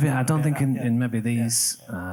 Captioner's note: all laughs